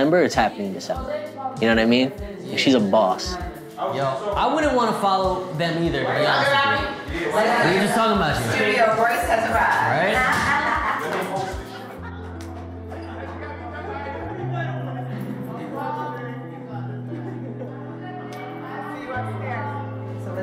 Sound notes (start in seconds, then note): 10.8 crowd laughs; 11.9 crowd chattering